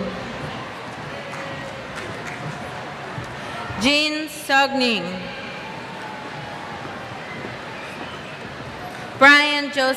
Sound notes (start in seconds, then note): 0.0 cheers